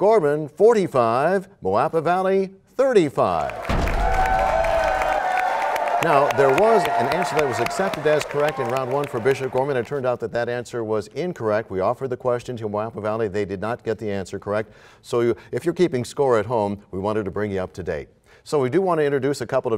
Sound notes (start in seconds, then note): 3.7 crashing sound; 5.4 applause